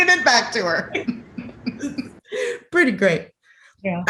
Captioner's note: laughter continues